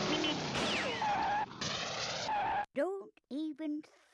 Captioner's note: breaks screeching